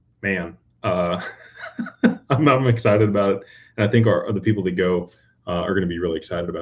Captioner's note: laughter